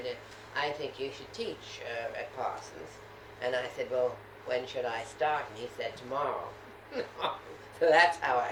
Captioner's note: laughter